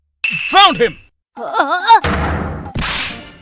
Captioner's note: surprised grunt!